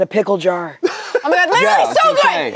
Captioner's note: laughs